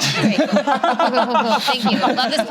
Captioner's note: laughs